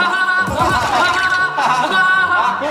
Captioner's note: hahahaha